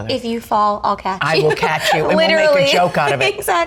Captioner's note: laughs